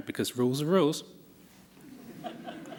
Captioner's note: laughter